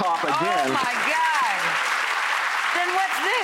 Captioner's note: audience clapping